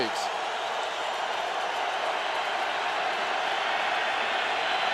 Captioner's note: cheering